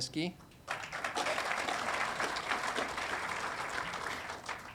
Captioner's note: audience applauding